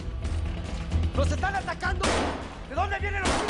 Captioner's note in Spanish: Disparos